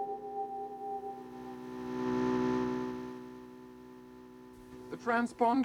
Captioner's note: electrical buzzing